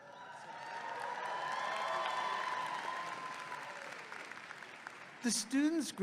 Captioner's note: audience clapping and cheering